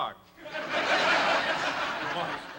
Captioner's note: laughter